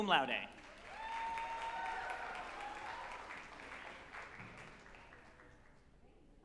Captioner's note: group applauding and cheering